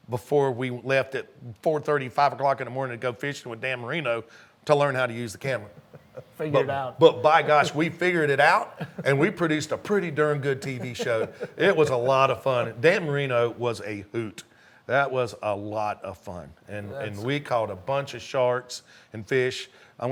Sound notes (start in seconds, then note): 6.1 laughs